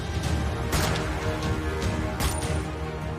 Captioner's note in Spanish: Disparos